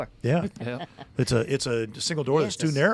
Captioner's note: laughing